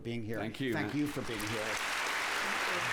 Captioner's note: applause